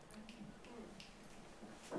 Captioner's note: snapping fingers